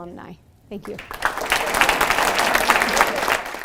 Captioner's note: audience applauding